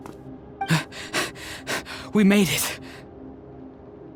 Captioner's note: panting